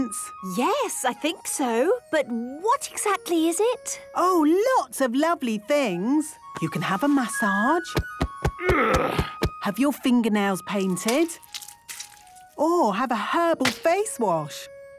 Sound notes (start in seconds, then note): 7.9 thumping; 8.6 moaning